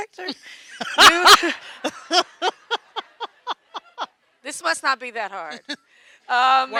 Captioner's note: laughing